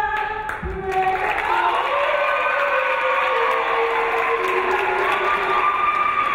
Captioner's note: clapping; cheering